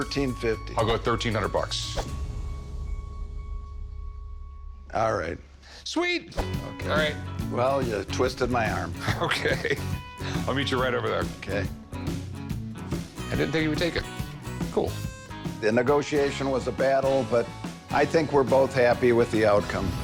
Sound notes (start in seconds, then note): 9.0 chuckles